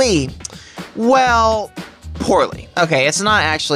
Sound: smacks lips

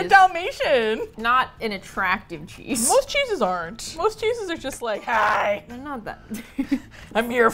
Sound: gravelly voice; laughs

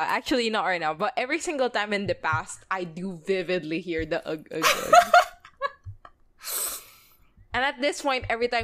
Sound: laughs

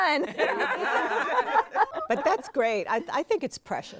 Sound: all laughing

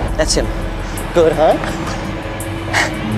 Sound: chuckling

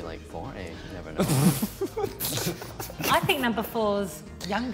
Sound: guys giggling

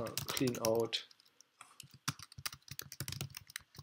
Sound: typing

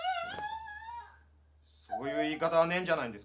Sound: sobbing

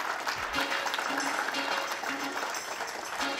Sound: audience applauds

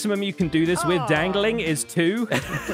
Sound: assorted noises of agreement

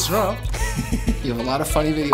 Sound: laughs

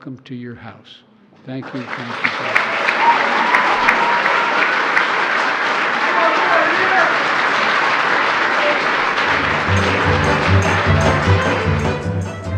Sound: applause

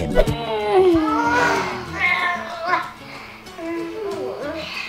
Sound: groaning

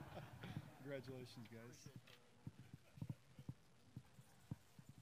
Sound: laughter

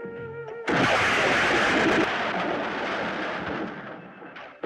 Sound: thunder Rumbling

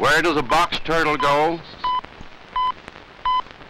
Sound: beeping

